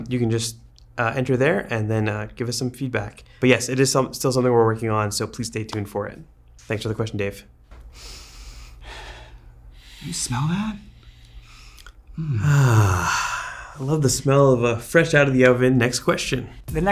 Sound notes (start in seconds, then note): 9.0 sniffs; 11.6 sighs; 12.5 sniffs